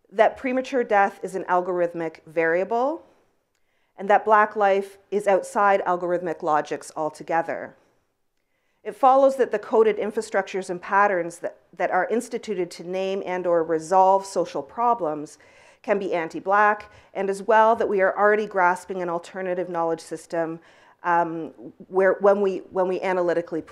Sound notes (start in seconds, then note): none